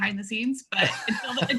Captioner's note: laughs